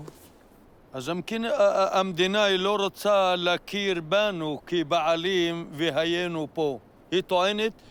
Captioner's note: speaks Arabic